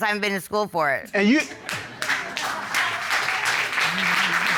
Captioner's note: audience applauds